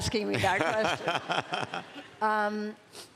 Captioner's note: laughter